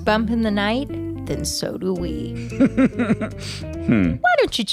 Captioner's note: laughs